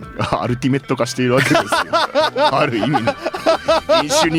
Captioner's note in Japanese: 笑い